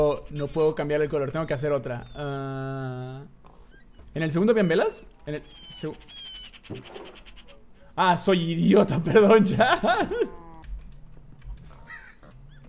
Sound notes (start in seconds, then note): 6.7 barrel opens; 8.7 laughs